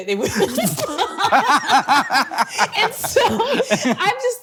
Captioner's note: both laughing